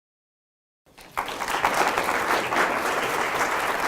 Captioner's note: applauding